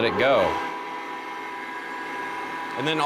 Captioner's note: machine whirring